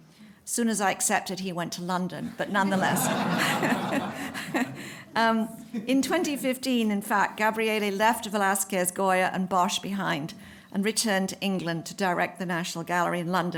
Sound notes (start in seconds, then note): 2.6 laughter